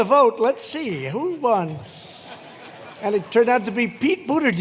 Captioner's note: laughter